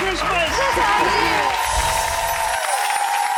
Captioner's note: applause